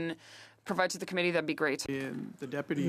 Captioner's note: speaking French